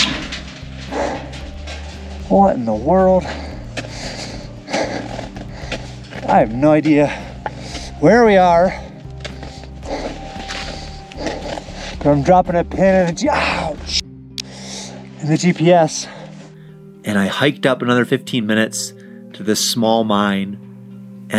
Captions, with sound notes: What in the world? (panting) I have no idea where we are. But I'm dropping a pin in, (groaning) in the GPS. And I hiked up another 15 minutes to this small mine.